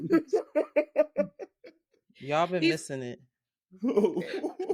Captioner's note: laughing